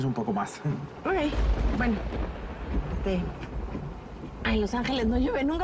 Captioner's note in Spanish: Truenos